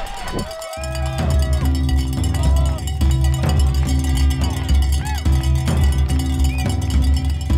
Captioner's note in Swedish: Applåder